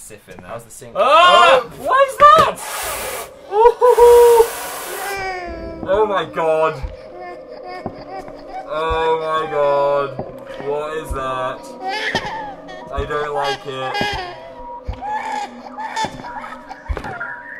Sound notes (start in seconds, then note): 1.0 screams; 5.5 baby crying; 8.8 moans; 11.6 baby crying